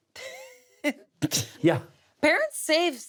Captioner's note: laughs